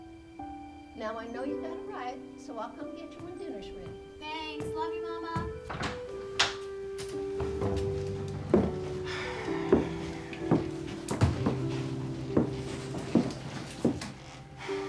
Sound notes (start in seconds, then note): 5.4 door opening; 8.4 sighs; 14.3 sighs